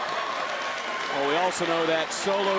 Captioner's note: crowd cheers